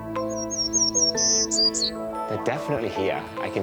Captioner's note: birds chirping